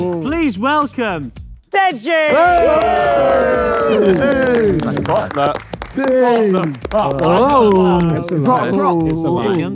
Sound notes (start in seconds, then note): 2.2 group cheers